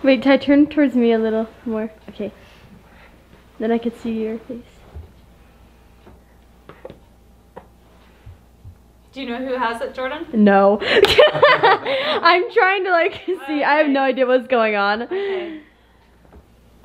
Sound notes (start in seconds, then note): 10.9 laughing